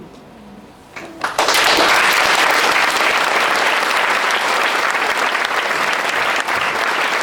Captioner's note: applause